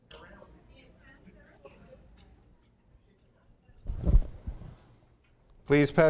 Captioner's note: woman speaking off microphone